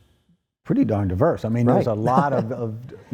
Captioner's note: chuckles